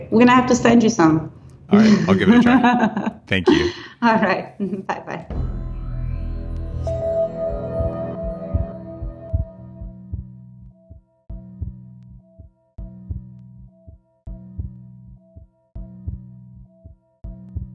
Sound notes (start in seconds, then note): 1.7 laughing; 5.2 dramatic music